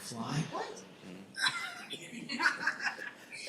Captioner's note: laughs